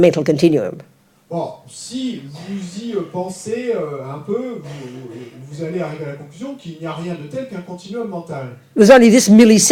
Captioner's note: audience member speaks in French